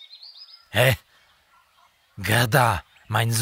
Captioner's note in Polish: z niemieckim akcentem